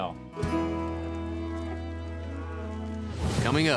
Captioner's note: cows moo